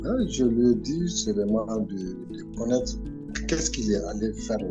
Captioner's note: speaking in French